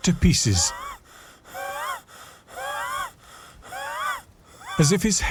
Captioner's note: Jacob breathing heavily